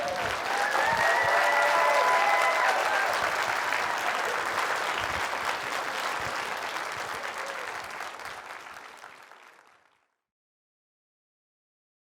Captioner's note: applause